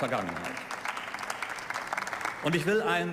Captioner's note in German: Beifall